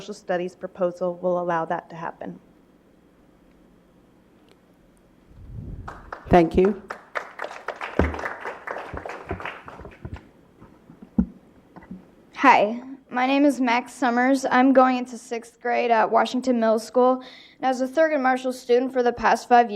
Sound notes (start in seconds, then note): 5.8 applause